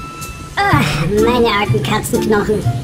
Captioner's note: moan